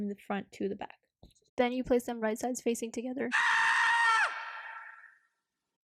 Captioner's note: scream